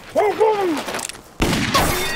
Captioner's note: fires gun